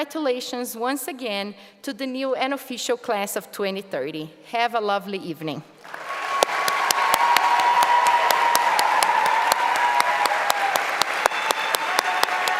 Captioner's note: applause; cheering